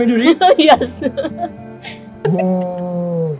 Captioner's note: laughs